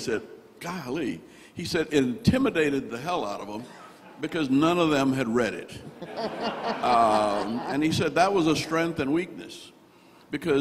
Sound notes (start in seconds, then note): 5.8 all laughing